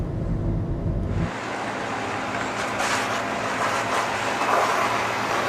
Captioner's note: car engine droning